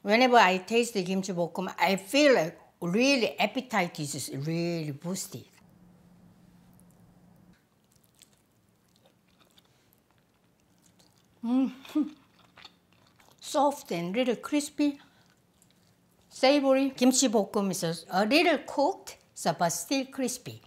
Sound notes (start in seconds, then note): 12.0 laughs